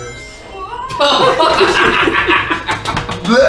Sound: laugh

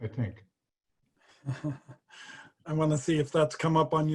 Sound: laughs

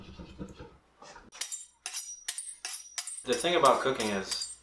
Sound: sound of knives sharpening

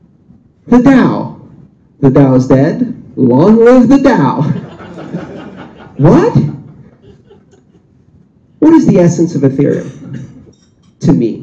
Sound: laughter

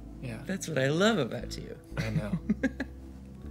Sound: laughs

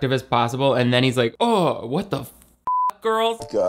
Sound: beep

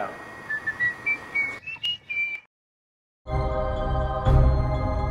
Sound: whistling

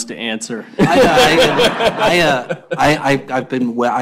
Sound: laughter

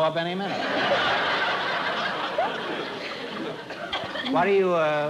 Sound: laughter

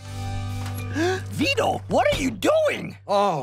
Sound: gasping

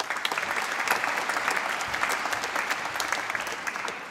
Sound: applause

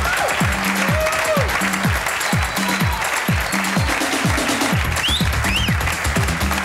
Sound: audience clapping; audience cheering; uptempo music

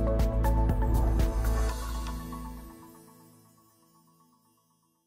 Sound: bright music; air whooshing

